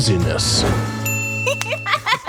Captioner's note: eye dings; woman laughs